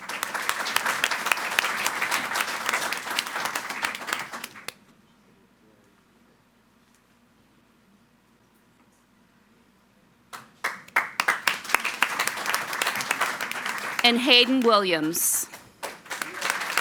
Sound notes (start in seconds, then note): 0.0 audience applauding; 10.6 audience applauding